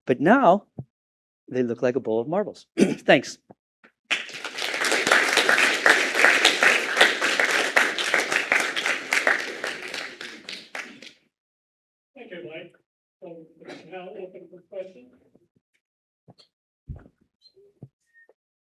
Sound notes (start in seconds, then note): 4.0 applause